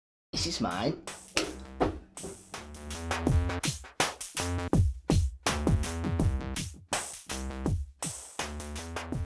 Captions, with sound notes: 'This is mine!' *SNAP* Fail.